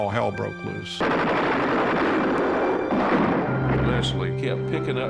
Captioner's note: gunfire